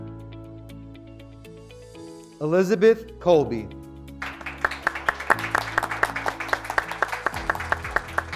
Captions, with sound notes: Elizabeth Colby, (graduates clapping)